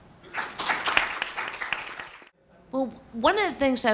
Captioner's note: students clapping